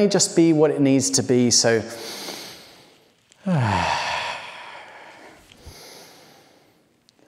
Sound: inhales and sighing exhale

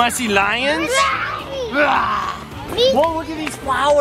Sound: imitating lion rawr

